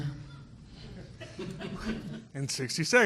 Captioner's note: people laughing